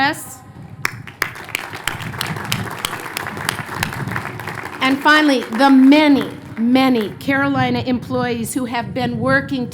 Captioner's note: applause